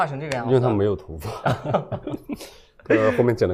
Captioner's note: laughs